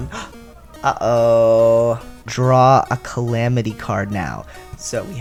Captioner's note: gasp